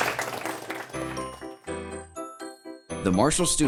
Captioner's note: applause and music